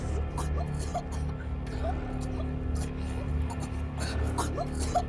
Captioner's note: Rudy chokes and splutters